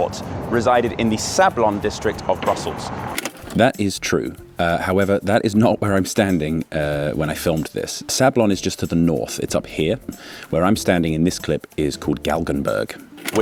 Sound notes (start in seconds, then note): 3.3 click